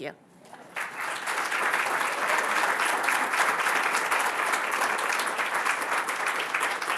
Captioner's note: applause